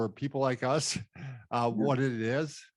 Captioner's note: laughs